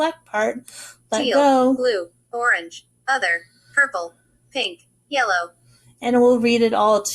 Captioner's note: computer speaking